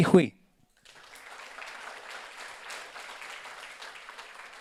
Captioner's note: audience applauds